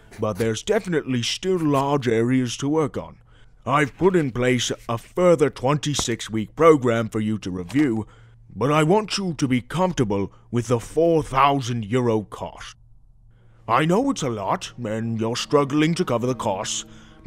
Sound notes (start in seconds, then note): none